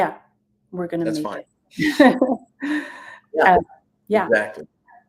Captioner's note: laughs